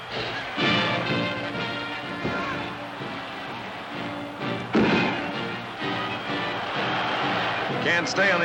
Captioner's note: music, cheering, pounding in ring